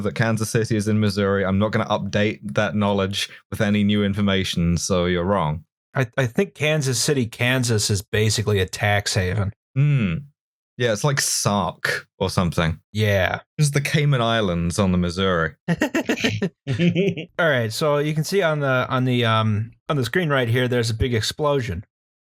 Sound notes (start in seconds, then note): 15.7 laughter